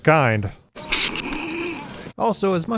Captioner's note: snickers